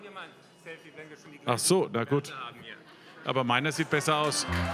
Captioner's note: cheers, applause